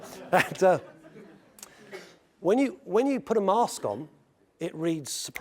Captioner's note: laugh